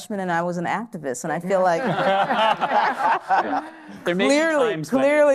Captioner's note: laughter